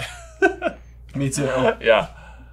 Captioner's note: laughing